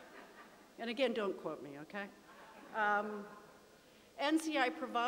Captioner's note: laughter